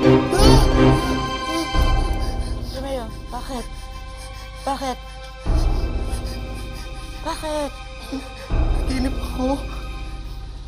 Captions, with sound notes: [screams, gasping] Romeo, what is it? What's wrong? [panting] -What's wrong? -I had a nightmare.